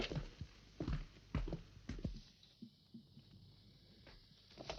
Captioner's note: footsteps walking